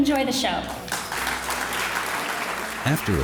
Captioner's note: audience applauding